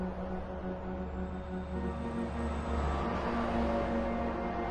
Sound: vehicles driving

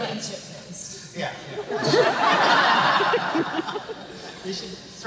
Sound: laughter

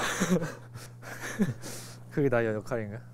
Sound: hehehe

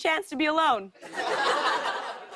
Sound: laughter

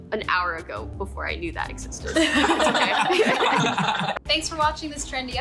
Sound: all but laugh

